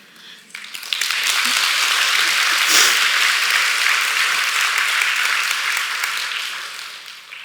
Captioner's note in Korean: 박수